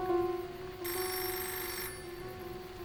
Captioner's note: phone Ringing